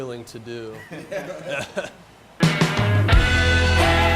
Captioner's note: laughs